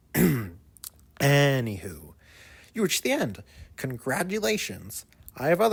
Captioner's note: clears throat